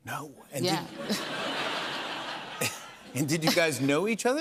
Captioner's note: laughter